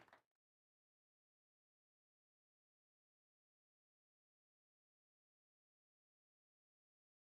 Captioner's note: applause